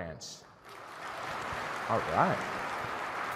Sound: crowd clapping

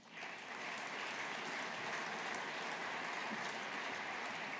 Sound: audience applauding

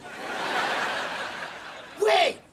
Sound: laughing

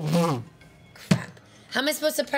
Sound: powers down

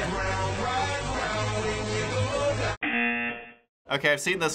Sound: buzzer

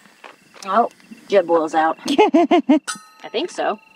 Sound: laugh

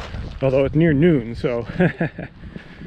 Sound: nervous laughter

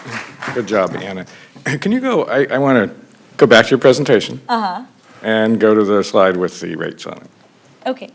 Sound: applause

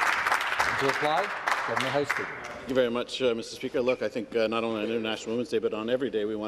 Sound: applause

